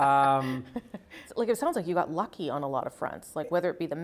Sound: laughter

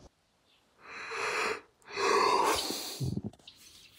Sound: yawns

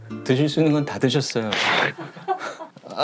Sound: blowing nose

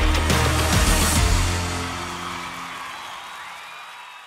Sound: crowd cheering

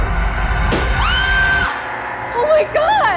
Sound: screams

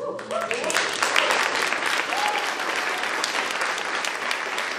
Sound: audience applauding

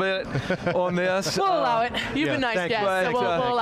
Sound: chuckling lightly

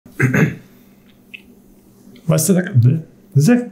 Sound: clears throat

